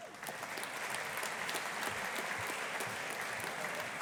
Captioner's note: audience applauding